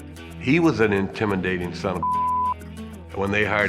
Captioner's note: beeps